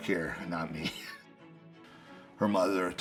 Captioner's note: laughs